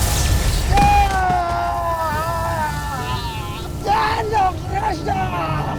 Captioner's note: grunts; powerful whoosh-crackle; screams